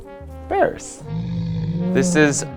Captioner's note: bear roars